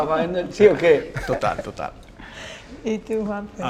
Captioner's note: laughter